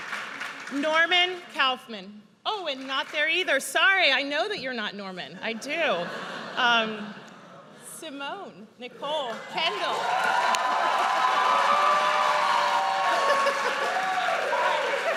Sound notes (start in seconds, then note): 5.8 audience laughs; 9.5 audience cheers